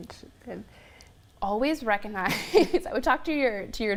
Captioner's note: laughs